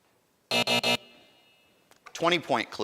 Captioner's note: end time buzzer rings